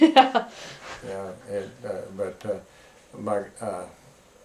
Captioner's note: laughter